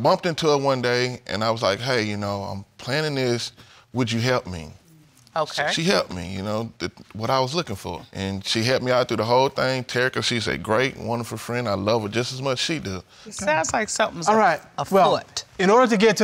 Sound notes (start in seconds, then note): none